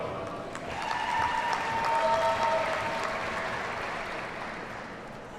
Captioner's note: audience cheers and applauds